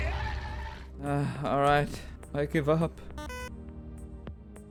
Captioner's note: sighs